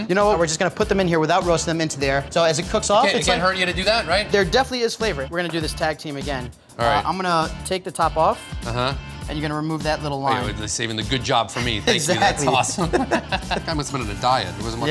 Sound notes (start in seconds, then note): 11.5 laughs